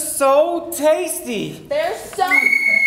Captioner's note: whistle